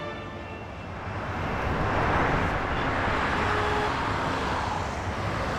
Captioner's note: traffic rumbling